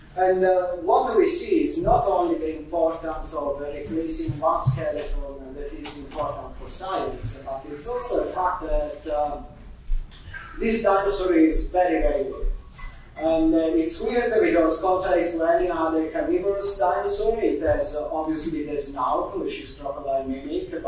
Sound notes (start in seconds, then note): none